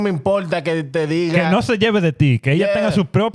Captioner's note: speaking In Foreign Language